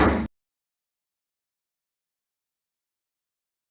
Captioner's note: gavel bangs